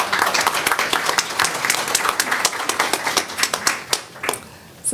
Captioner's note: applause